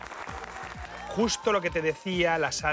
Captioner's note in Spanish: Aplausos